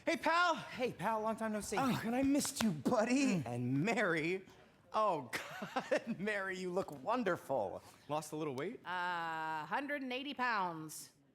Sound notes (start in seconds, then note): 5.3 chuckles